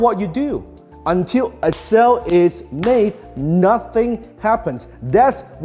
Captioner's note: hand slapping